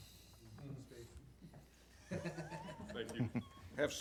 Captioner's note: laughs